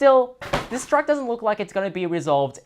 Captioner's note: case clattering onto the ground